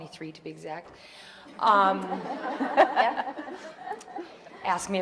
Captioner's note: audience laughing